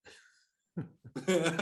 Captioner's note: laughter